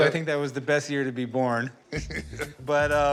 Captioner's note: chuckles